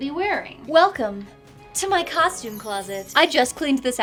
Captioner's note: sparkles chime